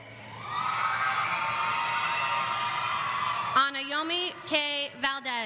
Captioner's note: audience cheering